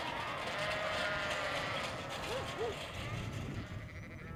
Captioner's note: sheep bleating